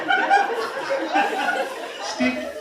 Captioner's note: laughter